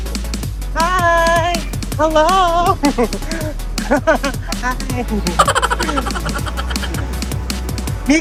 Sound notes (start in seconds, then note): 5.1 laughing; 5.3 laughing SFX